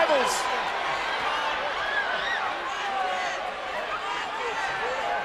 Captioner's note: crowd chattering